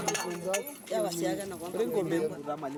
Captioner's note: speaking in native language